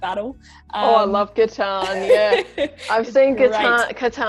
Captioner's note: both laugh